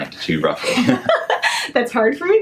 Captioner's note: laughs